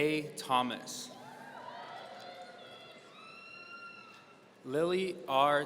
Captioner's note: audience cheering